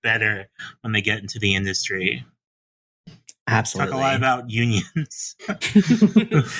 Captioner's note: chuckles